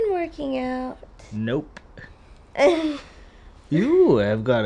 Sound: laughs

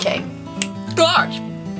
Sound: clicks

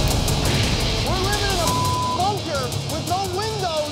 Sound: beep

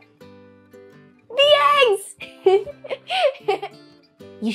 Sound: laughs

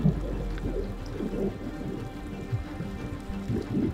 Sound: gentle music; water bubbling

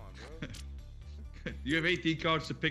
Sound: laugh

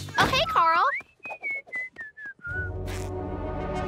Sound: whistling

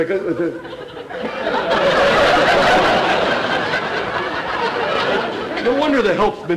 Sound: audience laughter

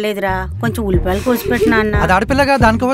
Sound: Subhadra laughing

